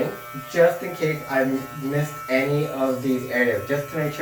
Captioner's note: buzzing noise